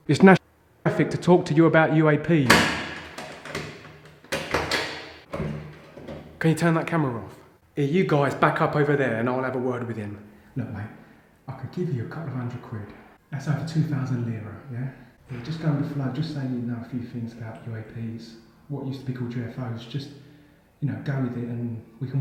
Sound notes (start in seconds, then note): 2.4 locks click